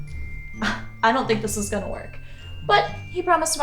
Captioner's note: scoffs